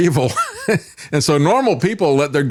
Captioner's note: laughs